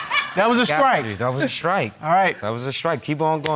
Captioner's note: none